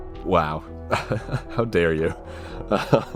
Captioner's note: laughs